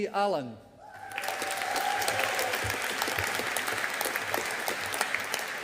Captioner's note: audience applauding